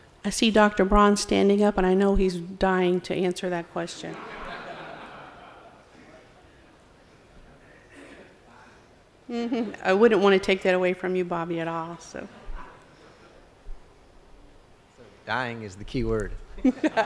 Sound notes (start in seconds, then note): 4.1 laughter